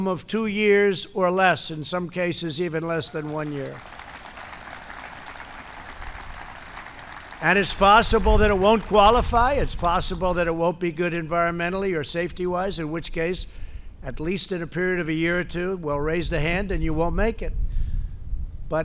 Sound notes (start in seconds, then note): 5.5 applause